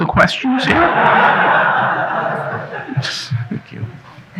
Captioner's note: audience laughing